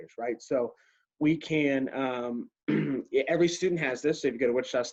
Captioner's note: clears throat